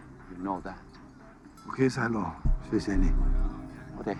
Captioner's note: Speaking Mandarin